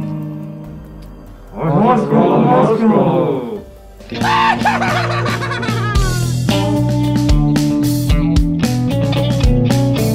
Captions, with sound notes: [chanting] THEY'RE NOT CATACOMBS